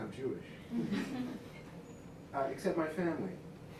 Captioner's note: light laughter